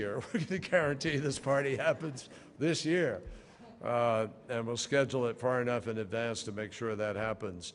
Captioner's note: laughter